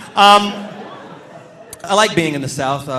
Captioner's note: audience laughing